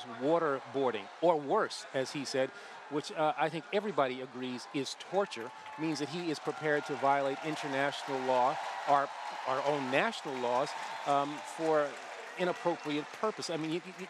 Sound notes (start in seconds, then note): 0.8 applause